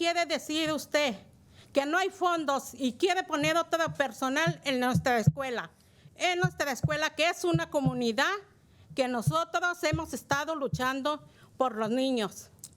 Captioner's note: speaking in spanish